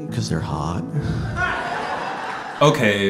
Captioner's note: audience laughter